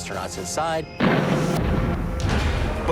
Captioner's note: explosion